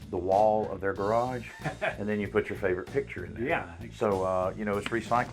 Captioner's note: chuckles